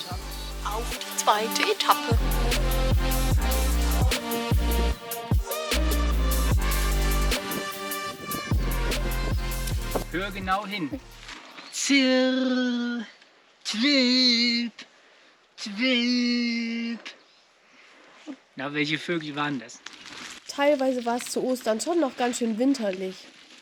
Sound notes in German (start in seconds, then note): 12.7 macht Vogelgesang nach